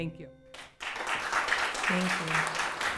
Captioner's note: audience applauding